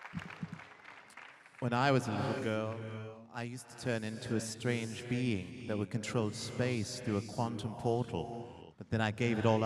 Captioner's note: applause